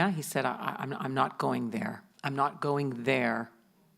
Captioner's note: none